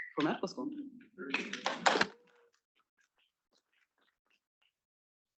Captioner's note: students clapping